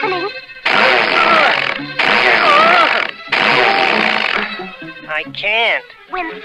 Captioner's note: Underdog struggles & sputters